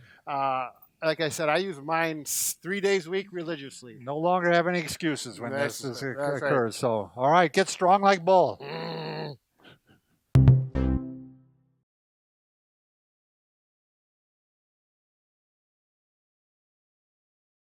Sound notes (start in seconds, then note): 8.6 grunting; 10.3 peppy music